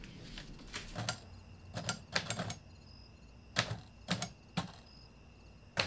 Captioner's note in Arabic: الكتابة على الآلة الكاتبة